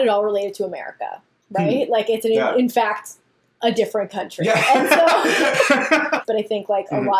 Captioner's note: laughs